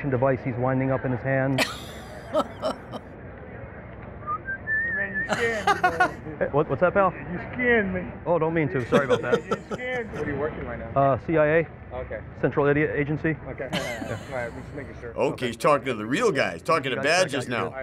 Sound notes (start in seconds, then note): 1.6 laughs; 4.2 whistling casually; 5.3 laughs